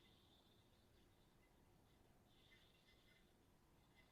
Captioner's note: none